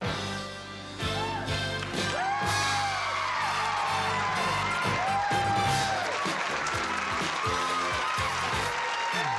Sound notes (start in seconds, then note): 0.4 upbeat music; 1.0 cheers